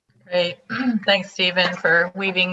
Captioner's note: clearing throat